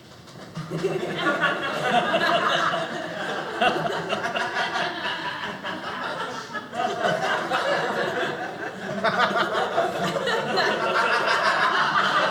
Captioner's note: audience laughing